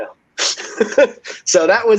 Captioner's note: laughs